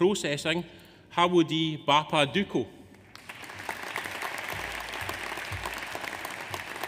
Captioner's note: audience applauds